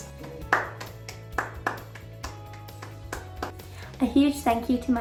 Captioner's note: happy clapping